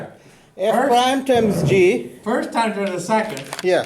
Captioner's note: voiceover